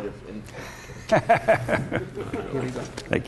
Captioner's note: laughter